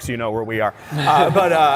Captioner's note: laughter